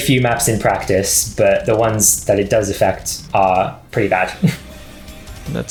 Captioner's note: chuckles slightly